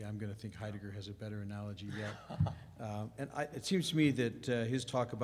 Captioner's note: laughs